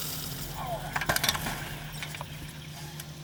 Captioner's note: pilot grunts